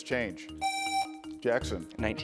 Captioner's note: buzzer rings